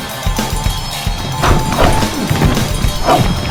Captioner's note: fighting sounds